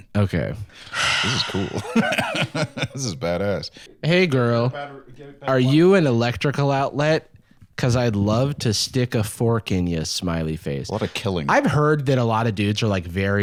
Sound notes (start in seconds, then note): 1.2 laughs